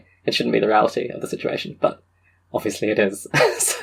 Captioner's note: laughs